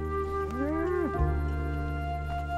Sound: lowing

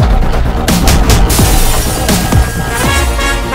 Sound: glass shatters

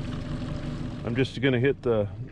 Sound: boat engine idling

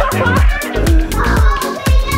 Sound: laughs

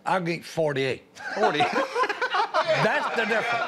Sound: laughter

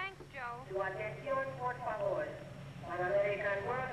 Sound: announcement in Spanish

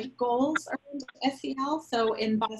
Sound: microphone sputters

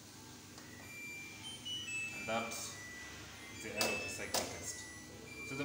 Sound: machine complete tune plays

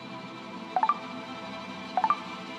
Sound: notification sound

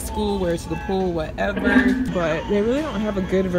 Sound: loudspeaker feedback

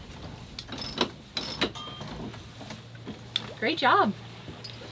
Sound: helm turning

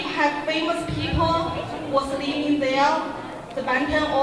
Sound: crowd talking

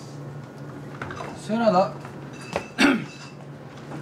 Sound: clears throat

